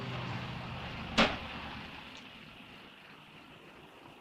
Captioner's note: car engine rumbling